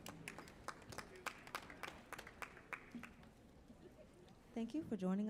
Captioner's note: audience applauds